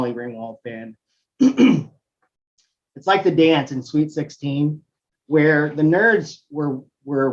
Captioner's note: cough